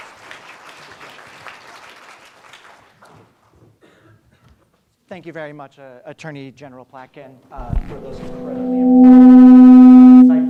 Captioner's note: applause